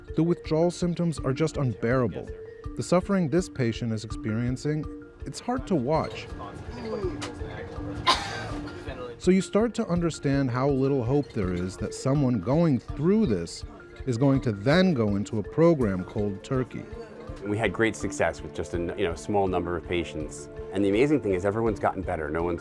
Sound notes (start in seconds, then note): 6.8 patient groaning